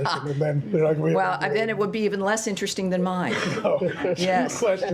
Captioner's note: laughter